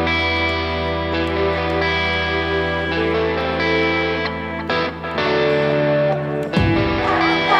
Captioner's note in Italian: Applauso